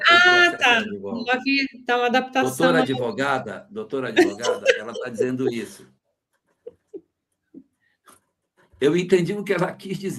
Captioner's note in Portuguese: risadas